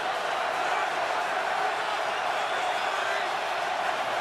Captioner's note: cheering